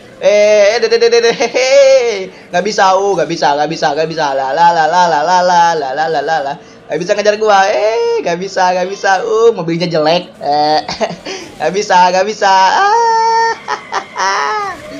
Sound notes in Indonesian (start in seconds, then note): 10.4 Laugh